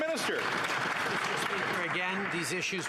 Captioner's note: applause